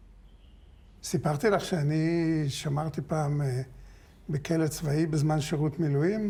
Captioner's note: speaking foreign language